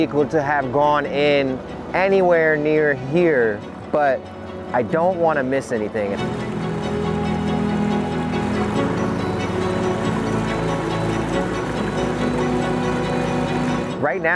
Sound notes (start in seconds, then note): 6.1 water lapping; 6.4 gentle music continues